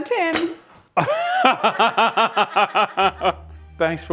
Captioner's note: laughing loudly